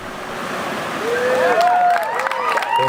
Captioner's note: applause